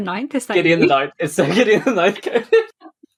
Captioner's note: lauging